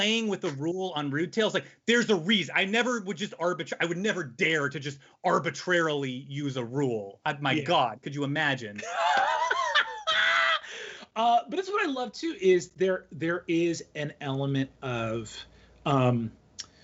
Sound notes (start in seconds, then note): 8.8 laughing loudly